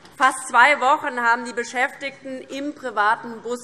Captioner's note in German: none